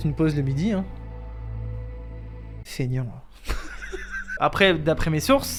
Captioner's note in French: Rire nerveux